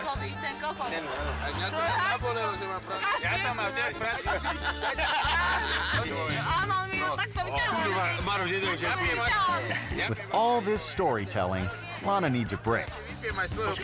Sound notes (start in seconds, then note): 0.0 and friends speaking in a foreign language; 3.9 group laughing; 7.1 speaking in a foreign language; 13.6 friends speaking in a foreign language